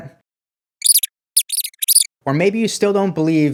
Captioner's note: mouse squeaking